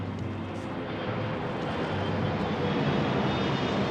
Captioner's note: airplane engine whirring